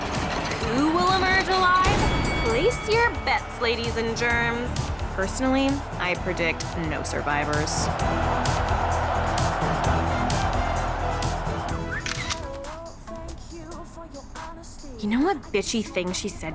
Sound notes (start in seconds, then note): 8.0 crowd cheering; 11.1 notification chimes, cellphone camera clicks